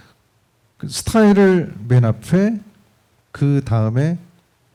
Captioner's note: speaking korean